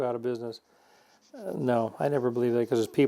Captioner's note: sandpaper scraping